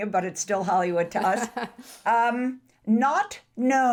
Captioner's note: laughs